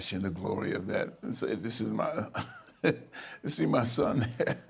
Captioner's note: laughing